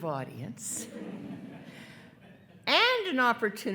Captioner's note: attendees laughing